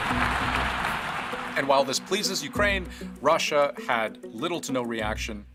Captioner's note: applause